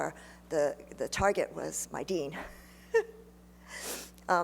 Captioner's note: laughs